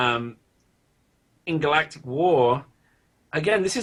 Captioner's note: none